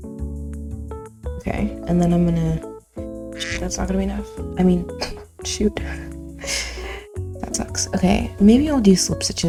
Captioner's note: quack